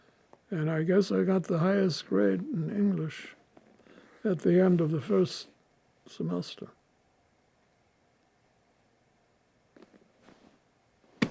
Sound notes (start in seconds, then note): 6.9 pauses 6 seconds